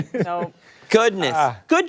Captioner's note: laughter